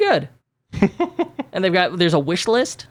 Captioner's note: laughs